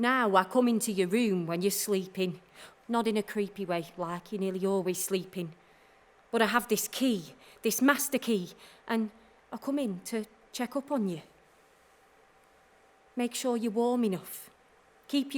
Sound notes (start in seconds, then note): none